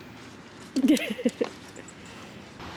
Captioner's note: laughs